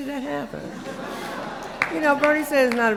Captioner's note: laughter